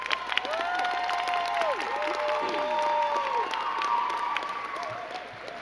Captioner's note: crowd clapping and cheering